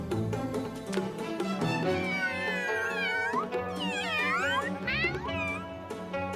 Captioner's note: they meow innocently